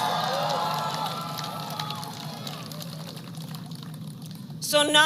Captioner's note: applause